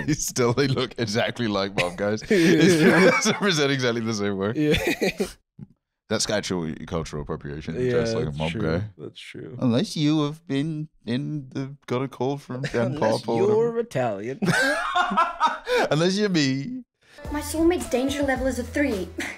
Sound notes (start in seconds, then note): 14.4 laughing